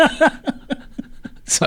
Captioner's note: both laughing